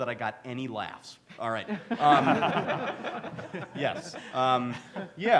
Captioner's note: panelist laughs